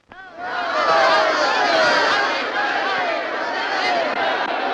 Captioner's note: crowd shouting